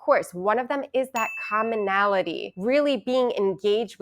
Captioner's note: bell ringing